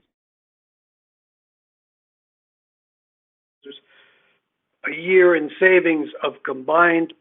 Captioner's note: speakers voice fades